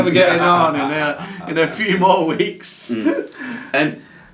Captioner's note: laughs